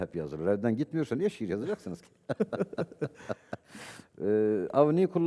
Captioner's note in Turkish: kahkaha